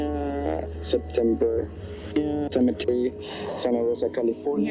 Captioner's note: recording playback; rewinding recording